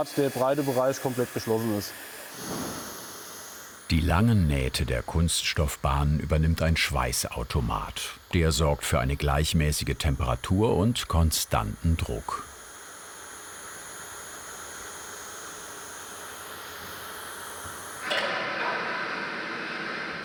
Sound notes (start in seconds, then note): 12.7 continuous whirring; 18.0 clattering, then whirring